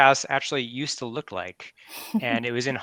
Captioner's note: laughs